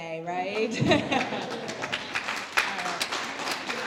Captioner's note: applause; laugh